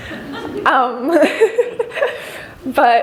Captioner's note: laughter